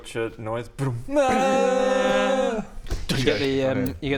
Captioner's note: bdmm AAAAAAAAAAAAAAAH